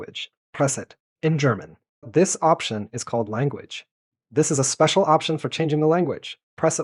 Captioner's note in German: auf Deutsch